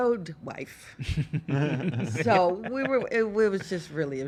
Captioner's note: laughs